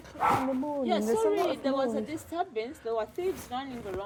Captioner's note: dog barking